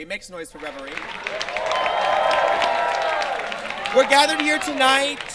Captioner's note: audience claps and cheers